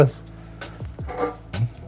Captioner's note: metal clanking